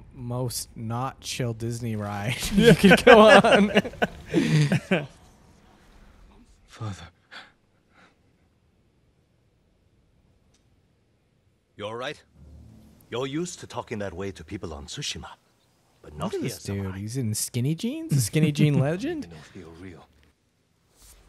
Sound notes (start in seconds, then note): 2.4 both laughing